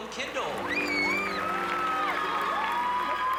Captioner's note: audience cheering